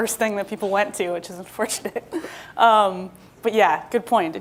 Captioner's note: laughs